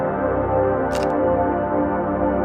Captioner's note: camera shutter clicks; soulful music continues